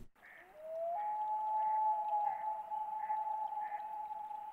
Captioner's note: bird hooting